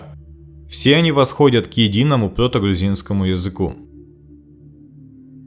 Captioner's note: Georgian